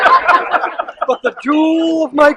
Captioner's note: laughter